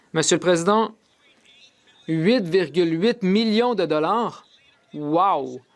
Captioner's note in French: voix de l'interprète